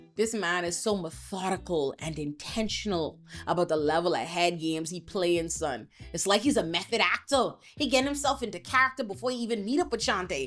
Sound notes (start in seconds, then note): none